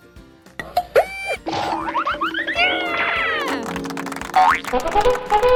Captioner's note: spring boinging